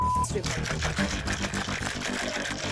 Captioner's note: ice shaking